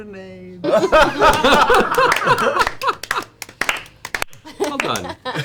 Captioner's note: all laugh and applaud